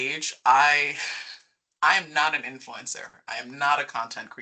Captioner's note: chuckling